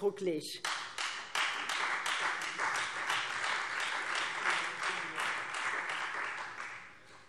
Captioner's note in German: Beifall Freie Demokraten